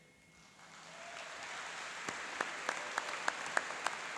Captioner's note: applauding and cheering